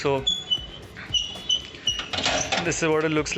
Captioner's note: door creaking open